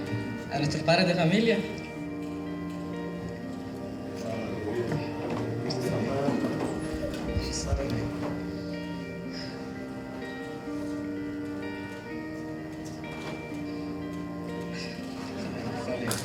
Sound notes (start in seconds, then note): 4.4 supportive murmurs